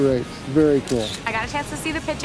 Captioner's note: camera snaps